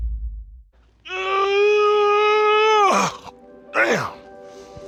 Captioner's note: yawns